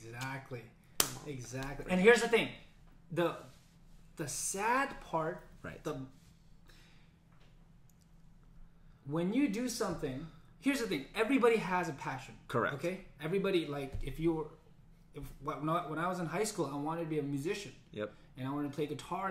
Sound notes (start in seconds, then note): none